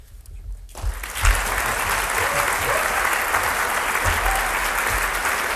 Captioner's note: audience applauds